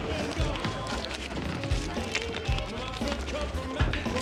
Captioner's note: bills crinkle